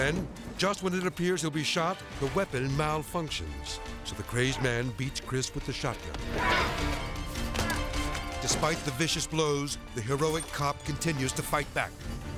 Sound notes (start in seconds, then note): 0.0 suspenseful music; 6.1 man yelling